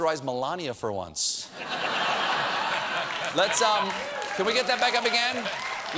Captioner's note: laughter